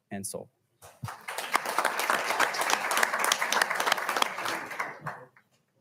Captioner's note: audience applauding